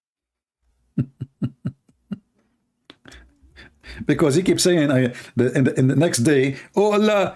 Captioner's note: Ketawa